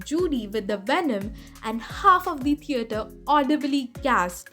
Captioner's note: gasped